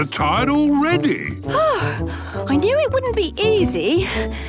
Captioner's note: panting